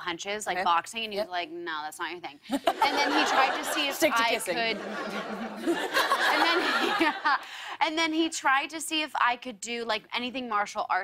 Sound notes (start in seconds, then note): 2.5 laughter; 5.9 laughs